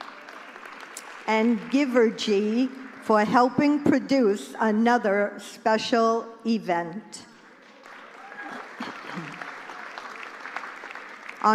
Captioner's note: applause; applause